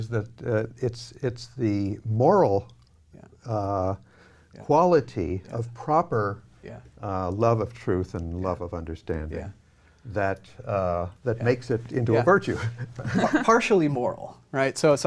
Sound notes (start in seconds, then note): 12.5 laughing